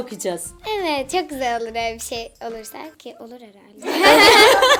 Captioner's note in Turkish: gülüşme